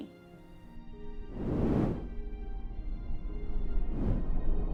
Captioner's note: air whooshing